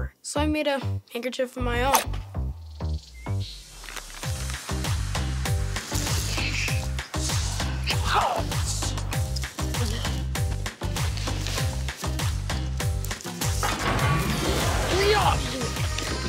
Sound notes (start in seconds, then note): 5.7 shushes